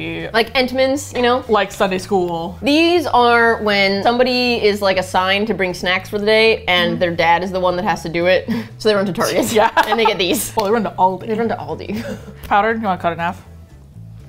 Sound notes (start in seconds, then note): 9.2 laughs